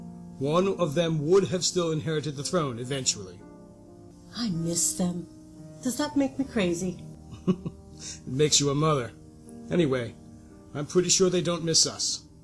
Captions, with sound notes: One of them would have still inherited the throne eventually. I miss them. Does that make the crazy? (laughs) It makes you a mother. Anyway. i'm pretty sure they don't miss us.